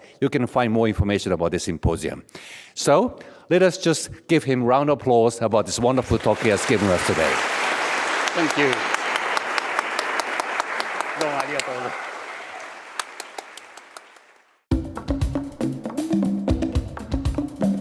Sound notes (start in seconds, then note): 7.7 audience applauding; 11.4 speaks in foreign language; 12.3 audience applauding; 14.7 uptempo music